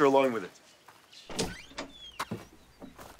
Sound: door opens

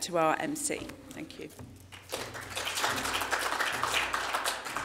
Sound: applause

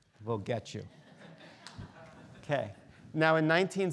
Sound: students laughing

